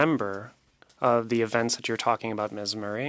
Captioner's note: speaking French